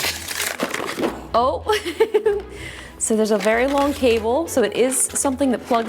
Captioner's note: chuckling